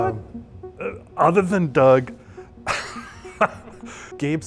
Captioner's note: laughing